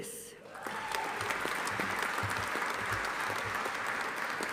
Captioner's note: audience applauding